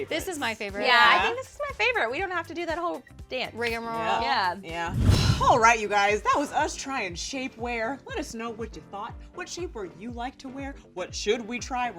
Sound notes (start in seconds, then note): 4.8 air whooshing